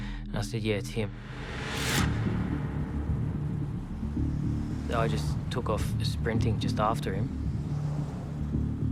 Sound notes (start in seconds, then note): 1.7 dramatic music; 2.0 car engines revving